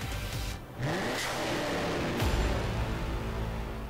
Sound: engine revs

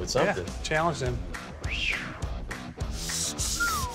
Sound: whistles

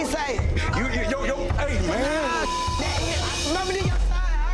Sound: beep

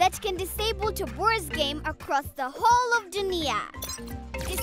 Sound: beeping

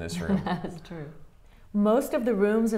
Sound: laughing

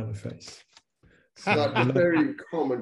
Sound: laughing loudly

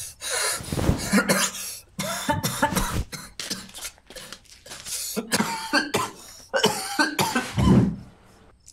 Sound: coughs Heavily

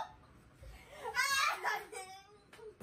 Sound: sob

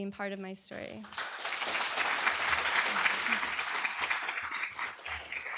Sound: applause

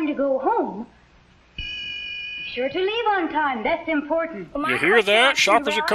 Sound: ding!

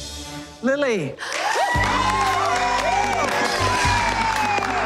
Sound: cheers and applause

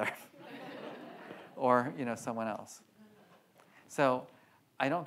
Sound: audience laughs

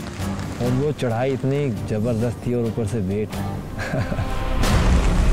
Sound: laughs

